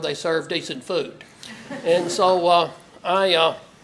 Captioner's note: laugh